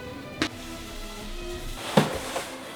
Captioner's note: box sliding on ground